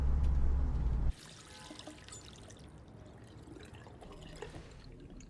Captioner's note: faucet running